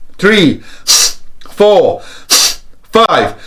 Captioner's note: deep breaths